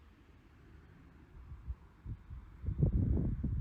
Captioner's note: distant traffic noise